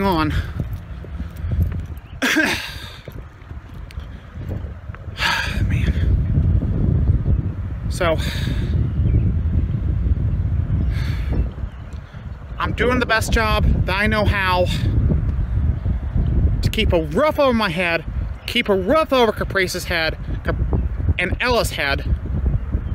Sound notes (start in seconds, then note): 2.2 clears her throat